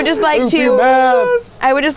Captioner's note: in deep voice